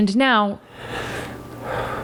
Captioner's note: sobs